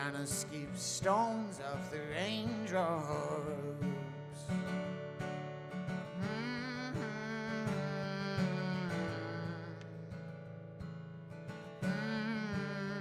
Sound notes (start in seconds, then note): 6.4 hums with guitar